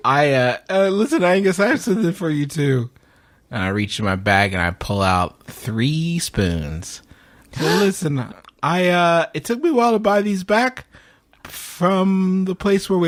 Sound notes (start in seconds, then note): 7.1 gasps